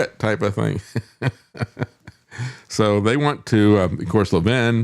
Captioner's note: laughs